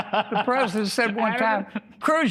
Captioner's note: laughter